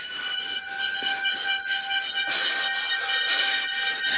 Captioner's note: breathing heavily